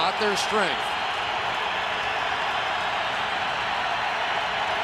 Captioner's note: cheering